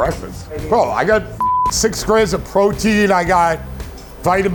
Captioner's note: beeping